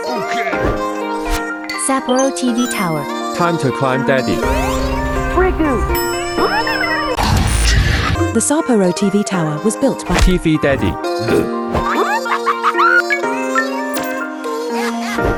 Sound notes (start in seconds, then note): 10.1 grunt; 11.8 insane laughter; 14.9 insane laughter